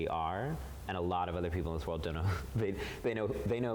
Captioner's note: chuckles